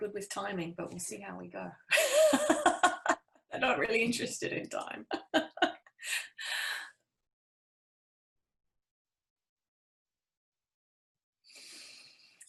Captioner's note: laugh